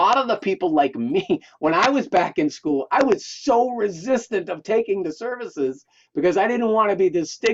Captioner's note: laughing